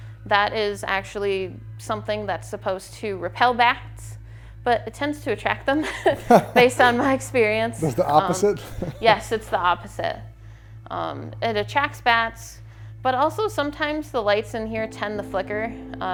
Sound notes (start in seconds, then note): 5.8 chuckles